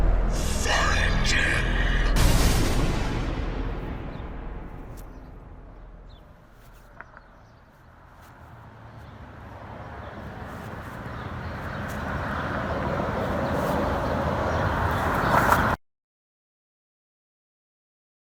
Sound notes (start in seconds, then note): 0.0 ominous Chant; 6.7 noises building up; 16.0 sound Cuts Off